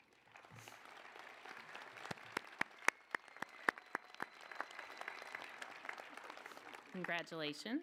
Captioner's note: applause